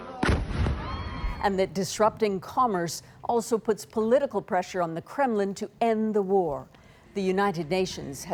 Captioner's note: explosion